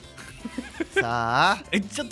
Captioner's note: giggling